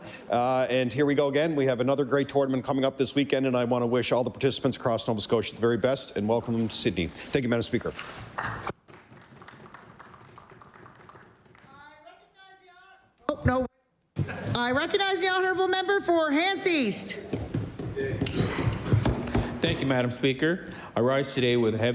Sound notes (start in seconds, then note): 11.6 applause